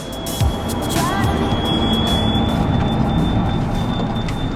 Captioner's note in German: Lautes Quietschen